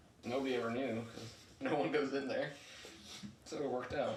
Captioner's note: laughs